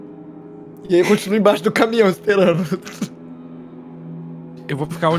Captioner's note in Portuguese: risos